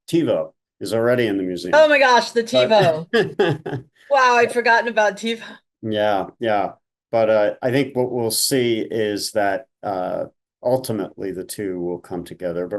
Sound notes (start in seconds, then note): 2.6 chuckling